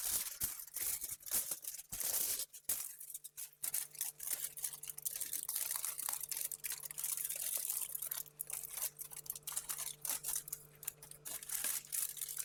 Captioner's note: crunching